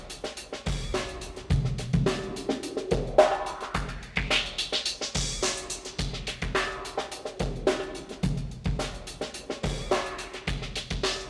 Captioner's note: sweeping sound moves across treble and bass of drum break